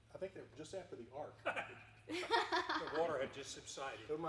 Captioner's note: chuckling